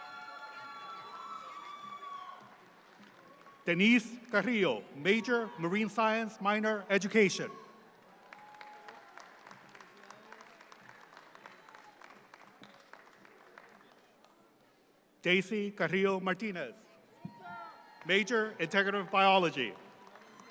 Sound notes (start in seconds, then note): 0.0 audience applauds; 7.9 audience claps; 20.3 audience claps